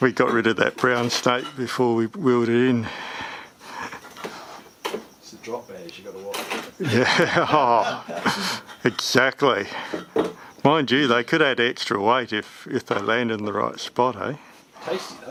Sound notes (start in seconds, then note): 8.9 laughing